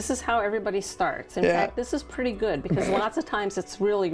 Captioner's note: snorting